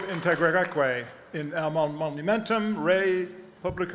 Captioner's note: speaking latin